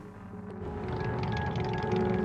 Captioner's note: engine noise; background music